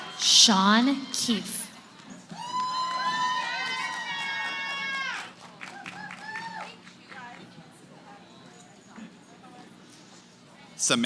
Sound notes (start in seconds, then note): 2.0 cheering; 7.9 background conversations